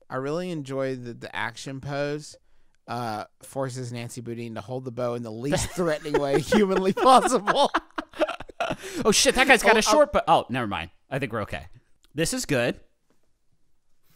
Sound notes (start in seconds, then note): 7.6 laughter